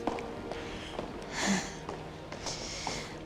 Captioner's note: sighs